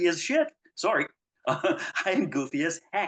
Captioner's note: chuckles